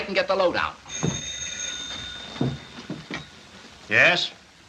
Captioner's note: phone rings